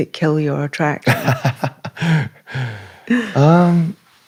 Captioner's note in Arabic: ضحك; لهاث